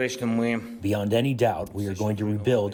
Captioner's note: through translator